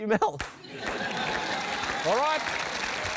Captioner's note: laughter